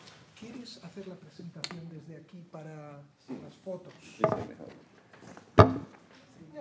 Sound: speaker and producer speaking Spanish

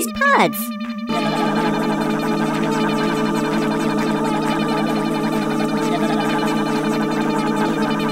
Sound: multiple motor sounds

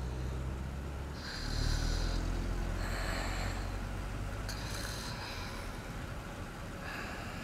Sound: Burt wheezes

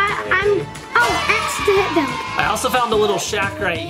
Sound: cheering effect

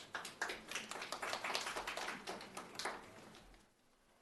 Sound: attendees applauding

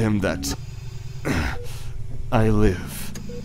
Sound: mechanical ambiance; grunting

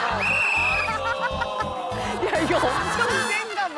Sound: laughing

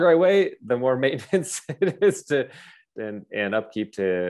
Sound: chuckles

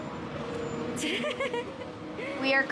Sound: laughs

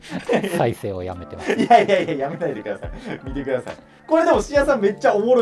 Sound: laughing

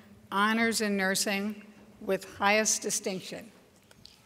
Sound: none

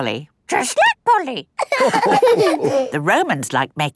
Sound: all laughing

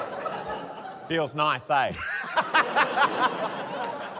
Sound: laughter

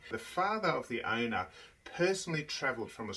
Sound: none

